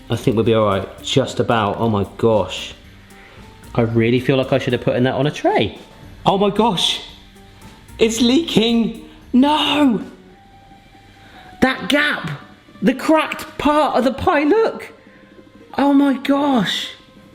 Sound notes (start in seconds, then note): none